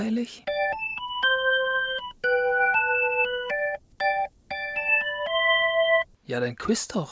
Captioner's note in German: glocke